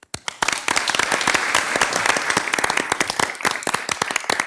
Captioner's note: everyone applauds